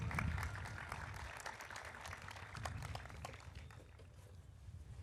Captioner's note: audience applauding